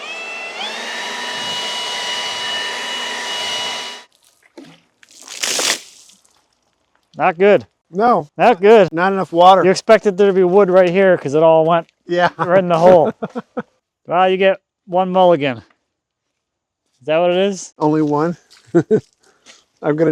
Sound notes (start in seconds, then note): 4.1 water sloshing; 12.1 both laughing